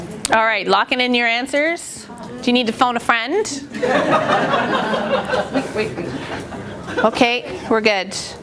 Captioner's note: laughter